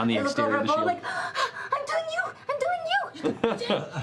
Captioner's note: panting